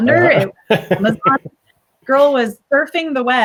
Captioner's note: laughs